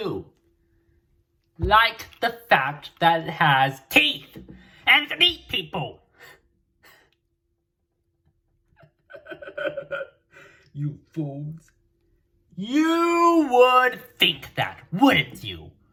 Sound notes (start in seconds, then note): 6.1 laughs